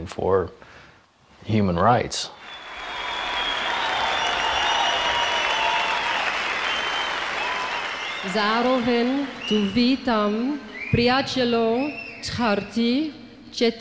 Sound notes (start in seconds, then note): 2.3 crowd cheering; 9.2 non-english speech